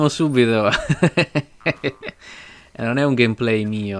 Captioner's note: laughter